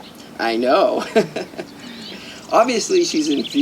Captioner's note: laughing